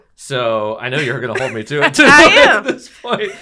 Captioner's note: laugh